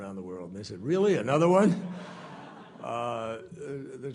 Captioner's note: laughter